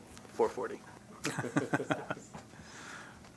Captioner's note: laughter